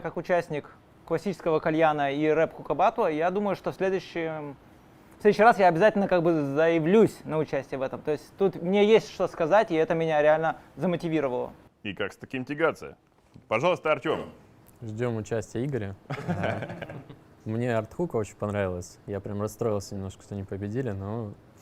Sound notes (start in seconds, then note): 16.0 laughter